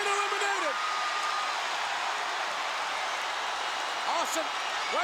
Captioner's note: crowd cheering